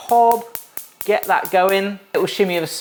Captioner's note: igniter clicking